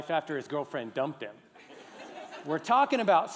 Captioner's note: laughter